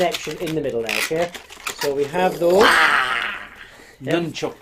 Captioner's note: mimicking martial arts sounds